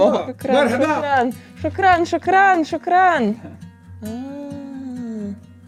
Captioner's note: speaks foreign language